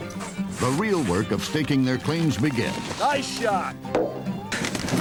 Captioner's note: none